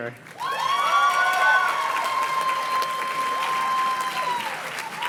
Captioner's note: audience cheers and claps